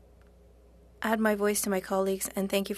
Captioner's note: speaking French